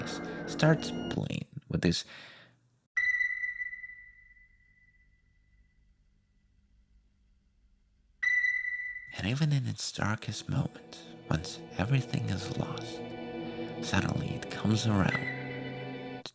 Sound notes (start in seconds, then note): 3.0 ping; 5.4 the PING fades out into nothingness; 8.2 ping; 15.9 ping